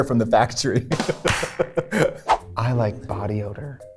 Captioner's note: Katya laughs